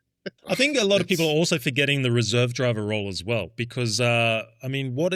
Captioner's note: laughing